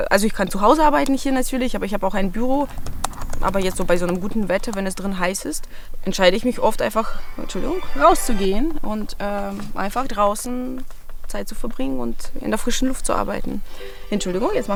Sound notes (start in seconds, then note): 7.0 phone rings